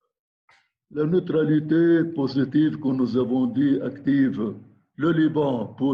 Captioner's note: speaking in foreign language